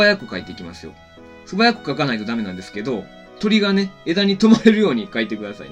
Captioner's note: laughs